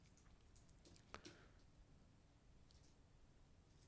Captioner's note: typing